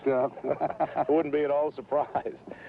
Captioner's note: laughing